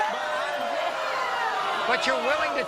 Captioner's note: audience jeering and swearing